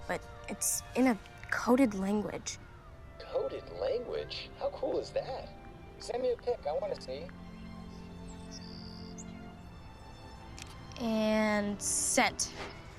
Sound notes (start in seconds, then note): 3.2 on phone